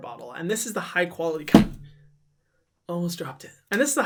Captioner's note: thud